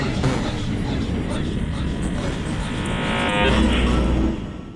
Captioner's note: electronic crackling